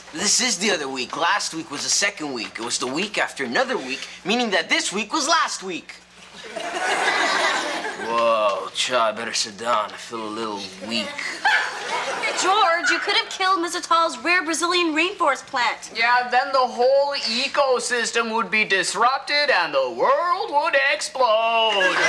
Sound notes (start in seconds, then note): 6.4 audience laughs; 11.2 audience laughs